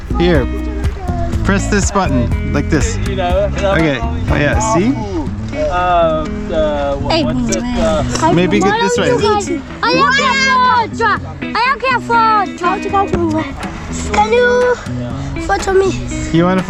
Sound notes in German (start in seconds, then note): 9.8 Kindergeschrei